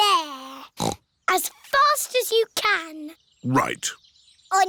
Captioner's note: snorts